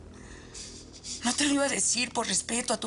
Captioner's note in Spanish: Ximena solloza